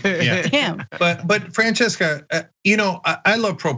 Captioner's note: laugh